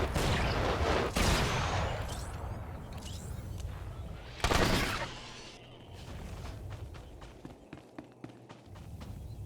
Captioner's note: explosion; explosion